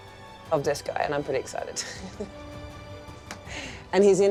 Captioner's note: chuckles